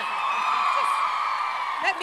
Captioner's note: crowd cheers